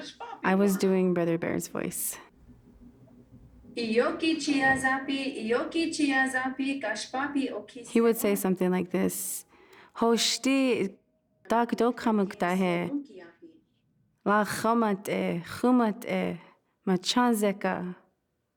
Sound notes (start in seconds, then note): 9.8 speaking Lakota